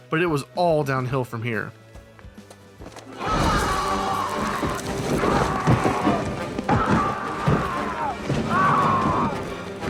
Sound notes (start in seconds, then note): 3.1 screaming; 6.7 crashing